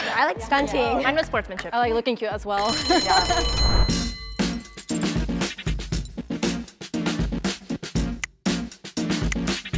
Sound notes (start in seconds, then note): 2.6 bell ringing; 3.6 energetic music; 4.5 finger snapping